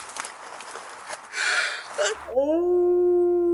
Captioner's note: gasps